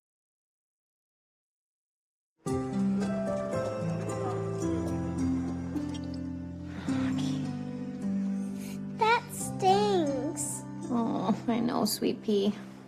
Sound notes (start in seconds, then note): none